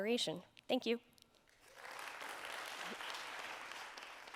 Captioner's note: applause